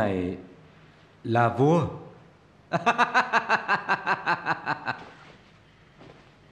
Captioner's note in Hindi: हंसी उपहास